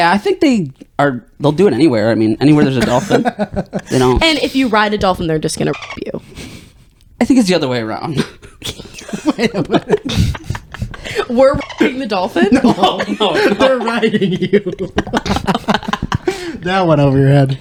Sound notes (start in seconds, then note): 8.0 laughing